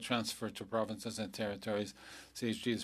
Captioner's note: speaking French